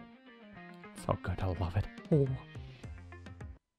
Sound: satisfaction noises

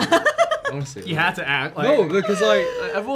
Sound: Gia laughs

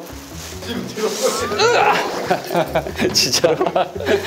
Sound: ughhh

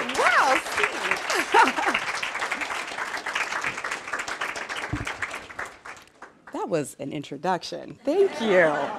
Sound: applause

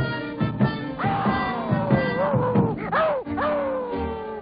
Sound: dog howls

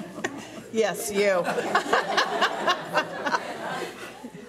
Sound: laughing

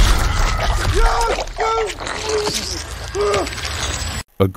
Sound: Bjorn screaming and gurgling

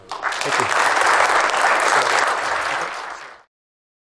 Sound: applause

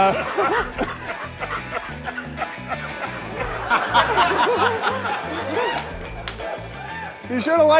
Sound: laughter

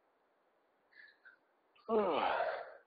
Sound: yawning

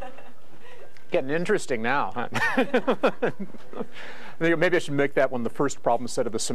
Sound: laugh; laugh

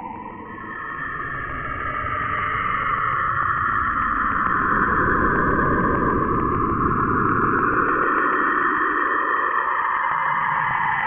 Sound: Spooky Saturn screaming audio

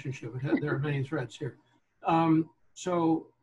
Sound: laughing

